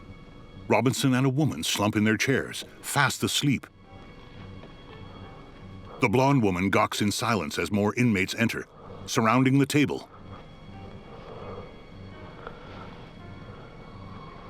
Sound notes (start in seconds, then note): 5.7 heavy breathing